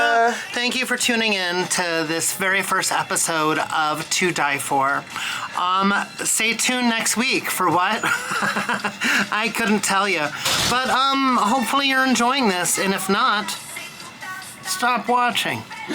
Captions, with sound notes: Thank you for tuning in to this very first episode of "To Die For." Stay tuned next week, for what? (laughs) I couldn't tell you, but hopefully you're enjoying this. And if not, stop watching.